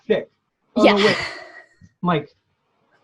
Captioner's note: laughs